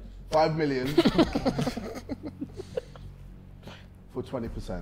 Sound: Sidemen laughing

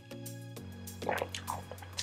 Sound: gulps

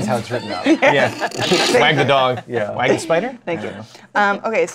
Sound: laughter

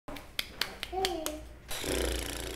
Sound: clapping; baby babbling; blows raspberries

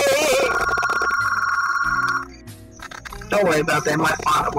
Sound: phone rings

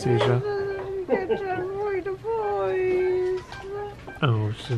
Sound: speaking gibberish

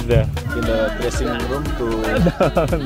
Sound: subtle voice

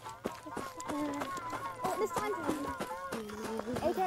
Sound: footsteps

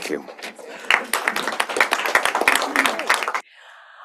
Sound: applause

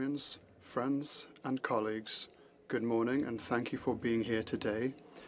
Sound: speaking French

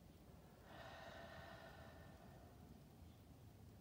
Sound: exhales

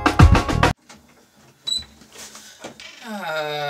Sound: door creaks open

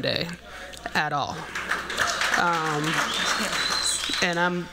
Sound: applause, whistling

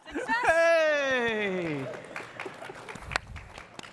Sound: laughter; applause

